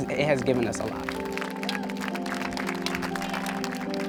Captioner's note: cheers and applause